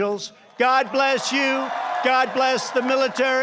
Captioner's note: applause